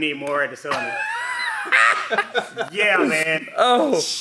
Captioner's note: laughs loudly